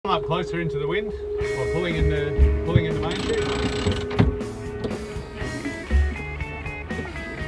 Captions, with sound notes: - Come up closer into the wind. We're pulling into-- (crank grinding) (upbeat music)